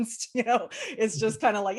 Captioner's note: chuckle